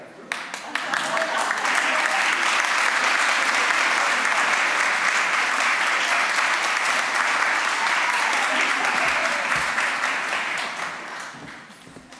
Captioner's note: applause